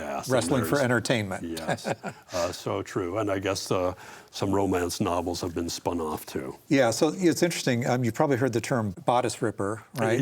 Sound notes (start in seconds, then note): 1.6 laughs